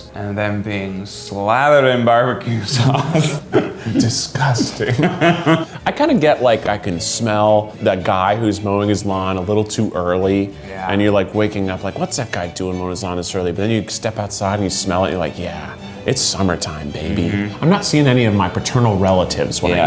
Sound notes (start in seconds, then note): 5.0 laughs